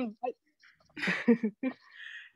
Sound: laughs

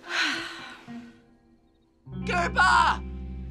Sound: sighs

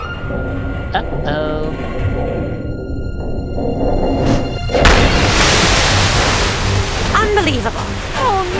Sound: pipes rattle

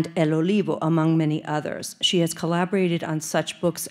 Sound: speaking Spanish

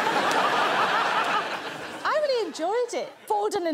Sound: laughter

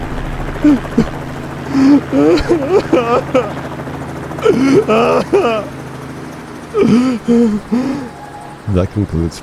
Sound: helicopter flying; helicopter leaving; sobbing

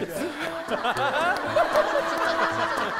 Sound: breathing heavily

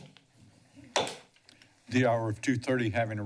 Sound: bangs gavel

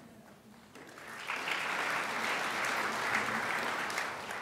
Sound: crowd applauds

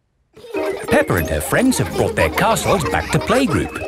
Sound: children laughing

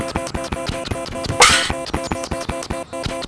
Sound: fast pounding footsteps; crash

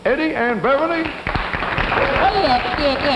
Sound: audience applause

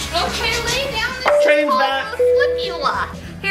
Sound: choo choo sounds; doorbell ringing

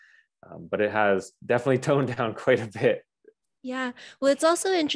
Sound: chuckles

